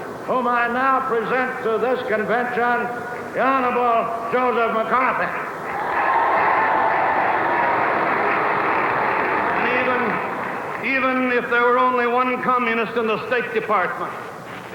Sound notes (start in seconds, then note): 5.6 audience applauding; 5.6 audience cheering